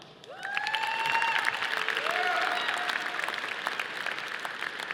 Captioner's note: audience applauding